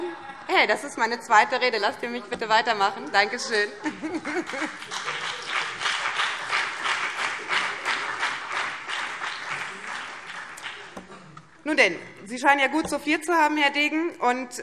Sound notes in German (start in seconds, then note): 4.4 Beifall BÜNDNIS 90/DIE GRÜNEN